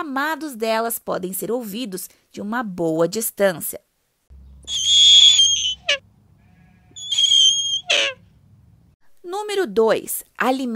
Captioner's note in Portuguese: sons de corujas